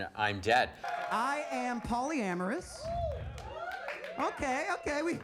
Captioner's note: audience cheers